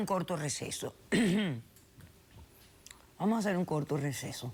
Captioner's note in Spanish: Carraspea